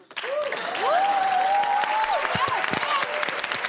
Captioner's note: cheers and applause